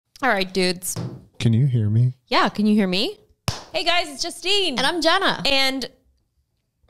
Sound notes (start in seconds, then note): 0.9 table thumps; 3.5 claps